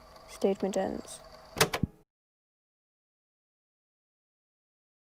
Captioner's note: tape recorder clicks off